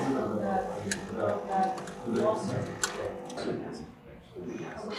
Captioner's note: chatter